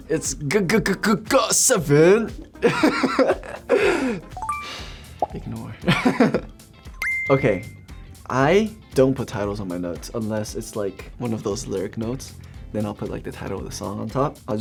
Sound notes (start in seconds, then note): 2.5 laughs; 3.6 sighs; 4.4 beeps; 5.9 laughs; 7.0 beeps